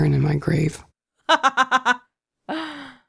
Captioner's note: chuckles